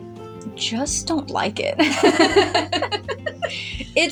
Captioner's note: both Laugh